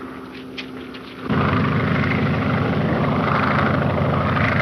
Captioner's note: engine droning